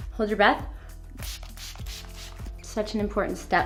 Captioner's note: spray hissing